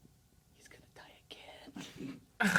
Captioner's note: whispers; laughs